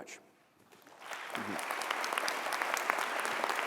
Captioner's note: applause